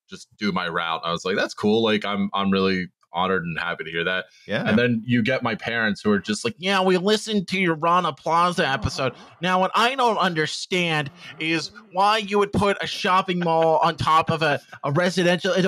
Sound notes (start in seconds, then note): 6.7 mocking parental voice